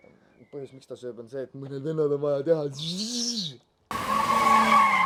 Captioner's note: burnout noises